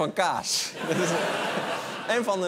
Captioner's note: laughter